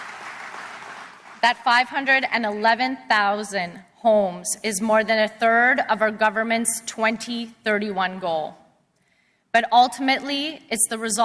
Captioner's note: applause